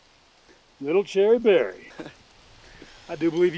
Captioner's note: chuckles